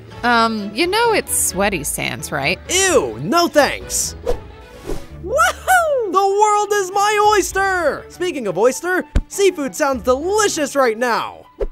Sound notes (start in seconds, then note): 4.2 air whooshing; 5.2 Roach whooping